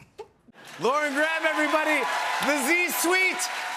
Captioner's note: cheers and applause